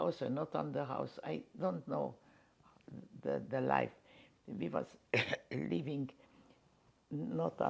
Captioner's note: coughing